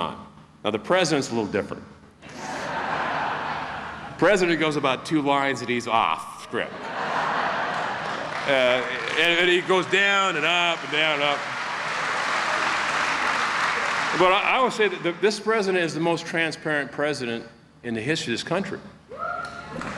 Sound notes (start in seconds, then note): 1.2 applause